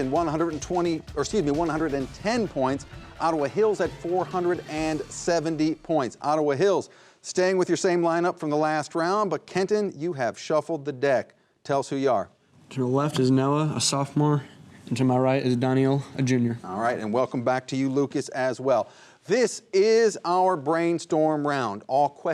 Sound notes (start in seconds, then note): none